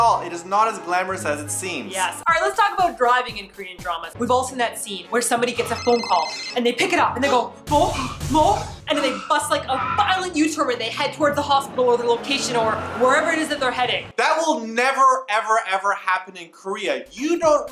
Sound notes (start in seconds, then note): 5.5 phone ringing